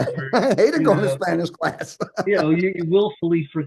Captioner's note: laughs